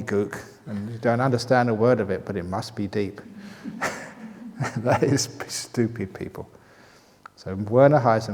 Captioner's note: chuckles